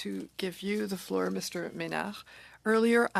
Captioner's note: speaking French